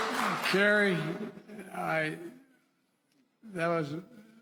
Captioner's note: applause